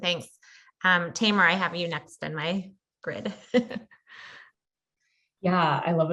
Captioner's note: laugh